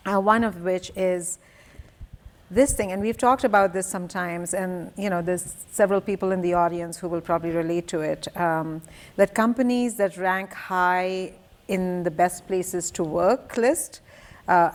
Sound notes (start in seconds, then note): none